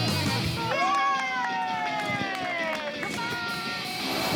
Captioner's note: cheering